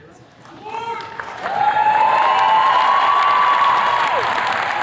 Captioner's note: attendees cheers and claps